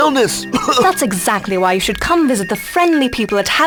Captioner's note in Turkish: öksürük